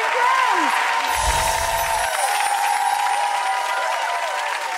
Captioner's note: applause